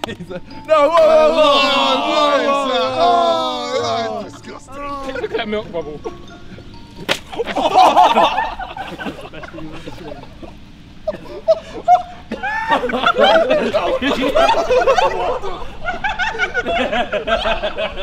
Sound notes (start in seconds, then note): 0.5 jeering; 7.0 smack; 7.3 laughter; 12.9 laughter